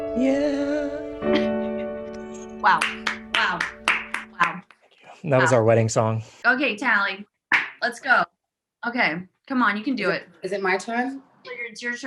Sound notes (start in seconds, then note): 2.7 slow claps